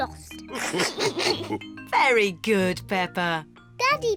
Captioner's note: all laugh